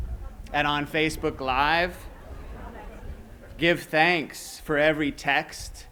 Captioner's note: laughter